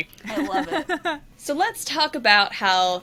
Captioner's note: laughs